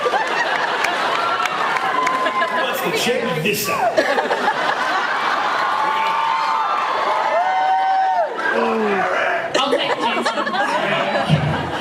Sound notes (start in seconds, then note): 0.0 laughs; 2.0 laughs; 3.8 laughs; 6.3 laughs, cheers